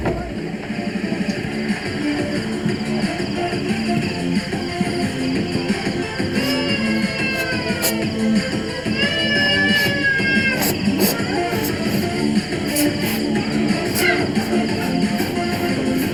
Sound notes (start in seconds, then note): 6.5 baby crying; 12.5 upbeat music